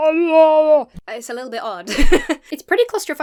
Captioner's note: laughs